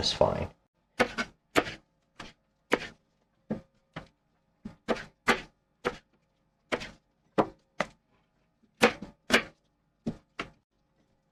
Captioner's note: knife cutting